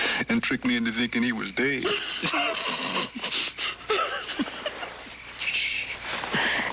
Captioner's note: chuckling